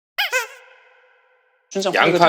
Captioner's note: Nattering with Nah